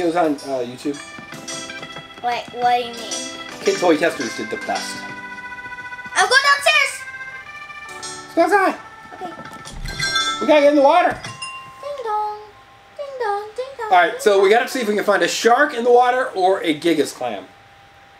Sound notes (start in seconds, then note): 5.3 calm music; 11.7 door chimes